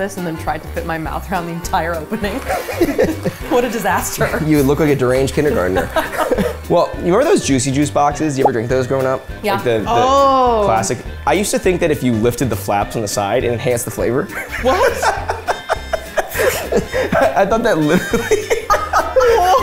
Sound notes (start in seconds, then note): 2.4 both laughing; 5.6 both laughing; 14.3 laughing; 19.3 both laughing